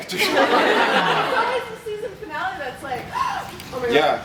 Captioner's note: gasp